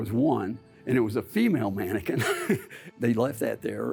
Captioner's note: laughing